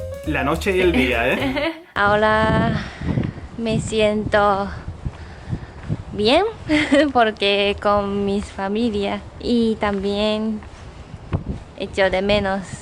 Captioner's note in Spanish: ruido de viento